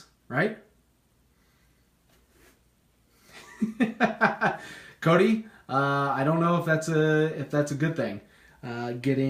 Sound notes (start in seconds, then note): 3.3 laughing